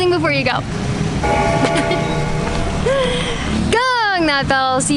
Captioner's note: bell ringing